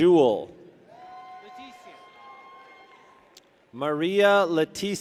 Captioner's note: people cheer